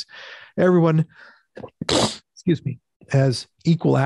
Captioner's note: sneezes